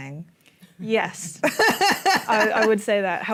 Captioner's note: laughs